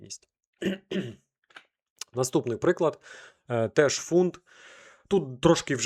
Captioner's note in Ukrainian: прочищення горла